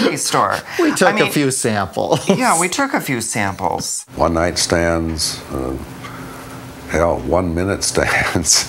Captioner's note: chuckling